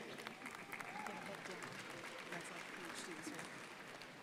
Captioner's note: crowd applauding